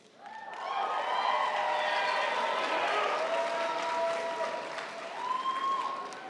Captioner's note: audience applauding; audience cheering